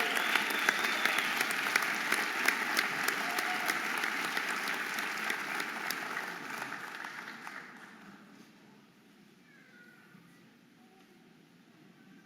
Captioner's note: audience applauding and cheering